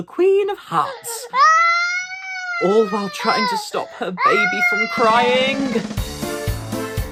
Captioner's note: baby cries